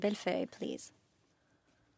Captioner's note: speaking French